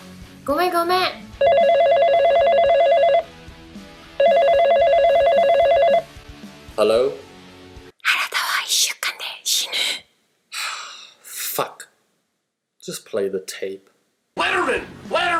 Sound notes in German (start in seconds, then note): 1.4 das Telefon klingelt; 10.5 Seufz